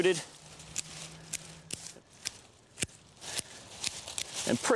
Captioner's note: clipping sounds